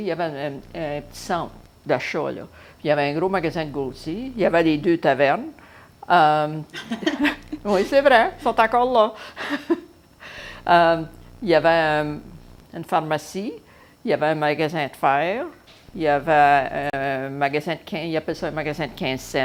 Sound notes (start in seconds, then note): 6.7 laughter